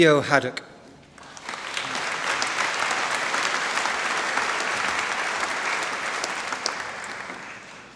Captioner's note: applause